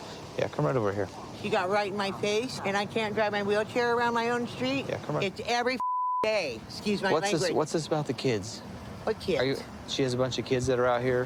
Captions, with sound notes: Yeah, come right over here.. -She got right in my face, and I can't drive my wheelchair around my own street. -Yeah, come around. -It's every (beep) day. Excuse my language. -What's this about the kids? -What kids? -She has a bunch of kids that are out here.